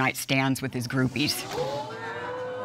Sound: audience exclaims

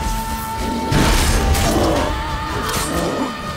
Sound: Quen shield explodes

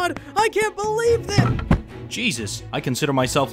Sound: Roach thuds

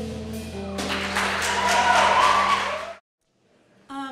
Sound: applause

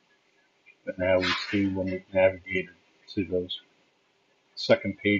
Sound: clanging noise

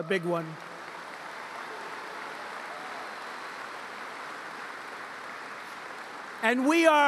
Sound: applause

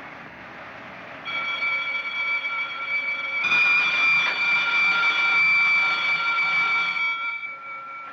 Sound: bell Rings

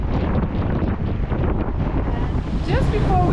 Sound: wind

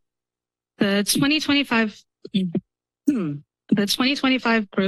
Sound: pause; clears throat

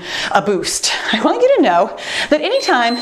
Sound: timer beeps

